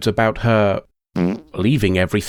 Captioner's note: fart